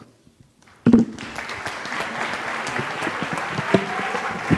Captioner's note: applause